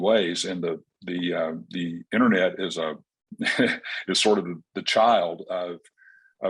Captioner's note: chuckles